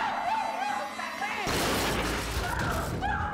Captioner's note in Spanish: estruendo